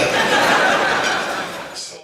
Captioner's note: laughter